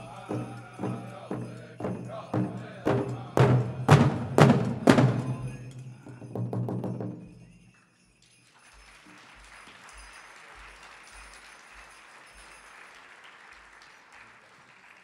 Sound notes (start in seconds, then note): 0.0 drum beating gently then intensely; 6.3 drum rolling; 8.4 audience applauding